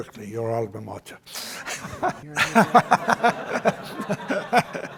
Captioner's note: laughter